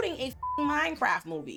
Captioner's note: beep